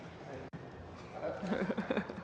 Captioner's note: laughter